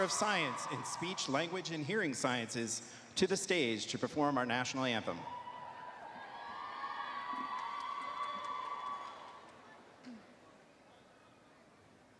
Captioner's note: cheering